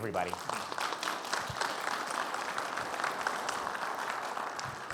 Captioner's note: audience applauds